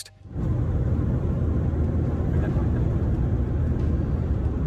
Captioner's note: car engine revving